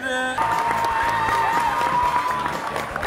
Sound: audience claps

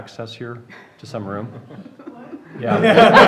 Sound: laughter

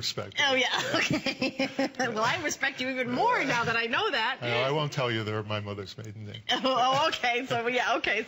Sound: laughter

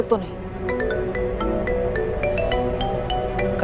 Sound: mobile phone ringing

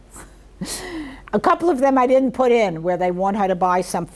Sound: chuckles

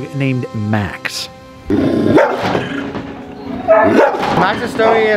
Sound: dog snarling and barking

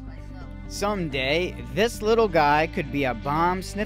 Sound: voiceover

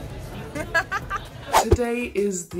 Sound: laughs

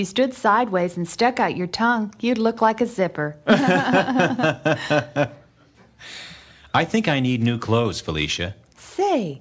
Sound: they laugh

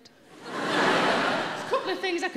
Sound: audience laughing

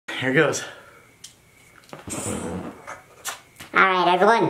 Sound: breathing In

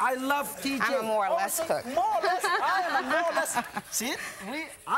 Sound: crowd; laughs; laughter

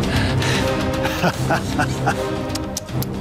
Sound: laughing

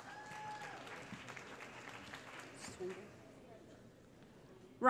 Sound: applause

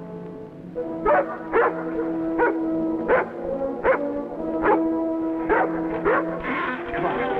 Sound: dog barking

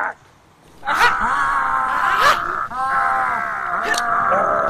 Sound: all clamoring

